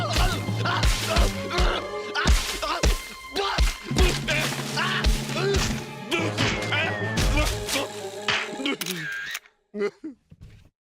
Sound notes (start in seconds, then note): 1.0 groaning